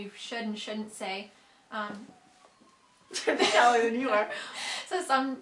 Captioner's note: laughter